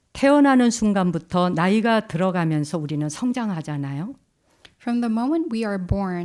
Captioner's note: speaking in Korean